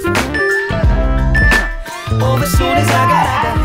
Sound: timer beeping

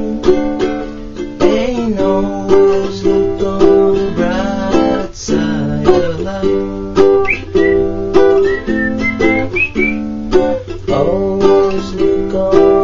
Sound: whistle

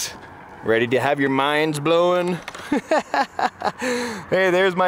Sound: laughs

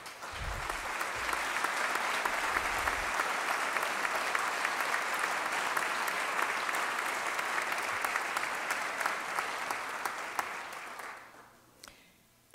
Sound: applause

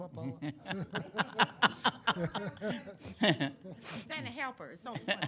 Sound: council members laugh

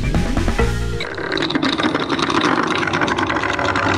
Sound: propeller rattling

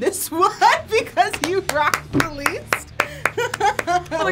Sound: claps; laughs

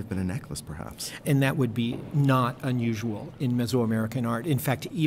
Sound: voiceover

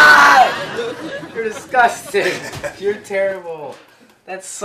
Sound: laughs

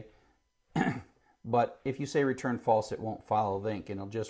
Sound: cough

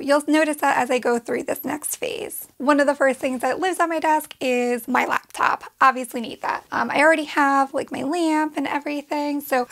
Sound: none

